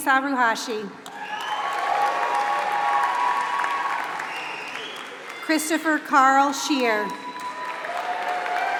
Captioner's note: applause